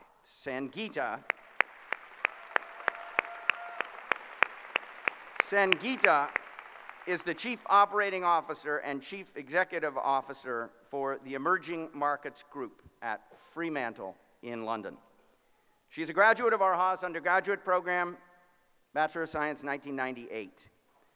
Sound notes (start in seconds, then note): 1.2 applause